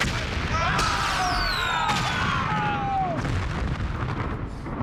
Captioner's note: gun firing; booming; men yelling